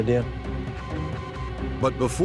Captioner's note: alert sounds; voiceover